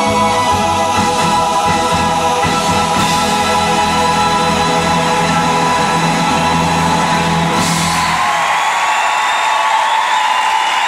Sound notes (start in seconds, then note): 7.1 audience applauding